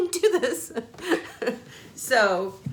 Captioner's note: laughing